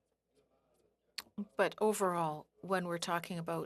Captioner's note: speaking French